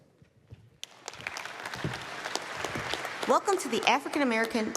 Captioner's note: applause